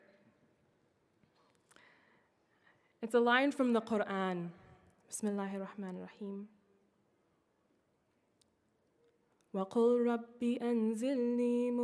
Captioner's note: speaking in Foreign Language